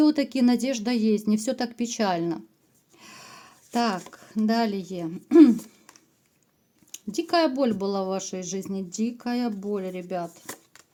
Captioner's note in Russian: откашливается